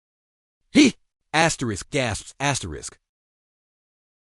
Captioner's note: gasps